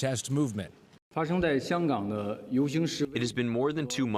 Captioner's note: through translator